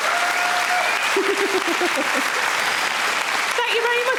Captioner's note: audience cheering; Sarah chuckles